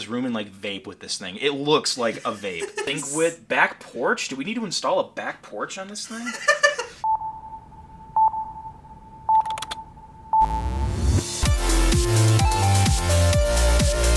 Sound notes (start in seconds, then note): 6.0 laughing; 7.0 beeping; 10.4 upbeat music